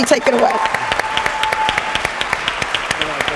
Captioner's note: applause